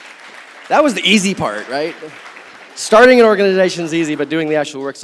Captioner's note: audience Applauds